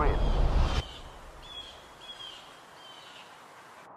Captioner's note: wind whooshing